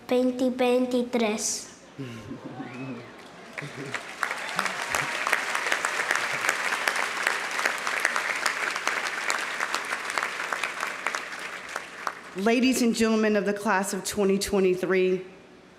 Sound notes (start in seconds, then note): 3.7 audience laughing; 3.7 laughing; 5.4 audience applauding